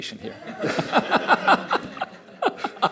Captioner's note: laughter